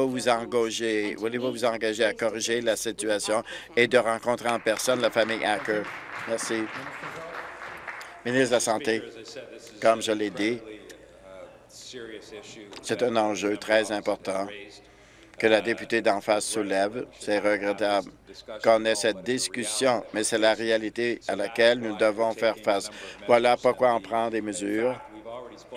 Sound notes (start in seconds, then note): 8.8 applause